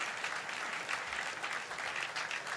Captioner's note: applause